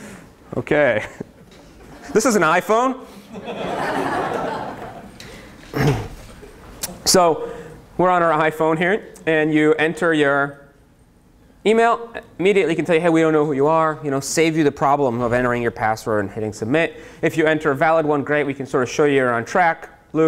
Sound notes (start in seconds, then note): 3.2 laughter